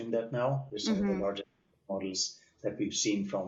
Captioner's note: audio cutting out